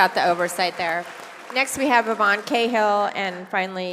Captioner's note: applause